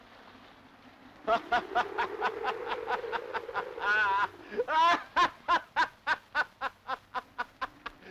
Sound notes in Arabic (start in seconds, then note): 1.3 أنطون يضحك